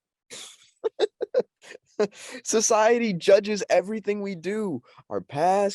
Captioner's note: laughs